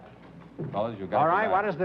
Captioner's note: chatter